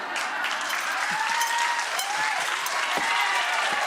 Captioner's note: audience cheers